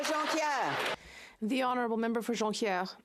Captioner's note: speaking French